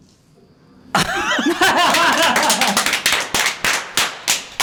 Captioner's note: wrapping up with laughter and applause